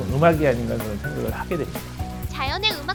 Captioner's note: sound of water flowing